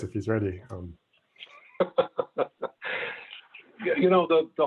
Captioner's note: laughing